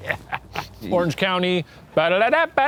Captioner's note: laughing; laughs; sings a tune